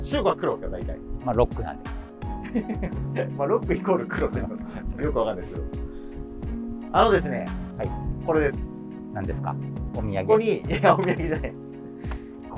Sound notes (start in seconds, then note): 2.4 laughing; 10.7 laughing